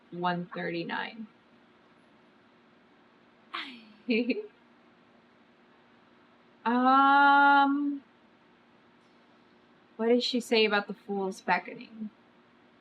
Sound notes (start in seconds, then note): 3.6 sighs